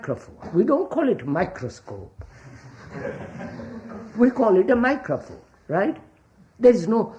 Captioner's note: laughter